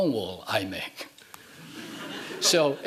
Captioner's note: laughing